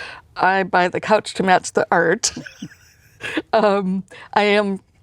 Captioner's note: laughs